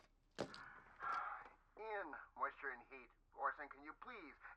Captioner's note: sighs